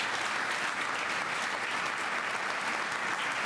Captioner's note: applause